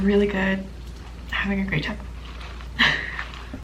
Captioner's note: laughs